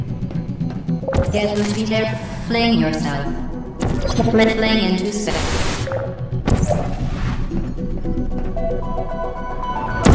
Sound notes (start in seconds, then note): 1.1 bzzt garble; 5.0 bzzt